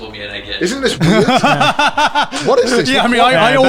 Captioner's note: laughs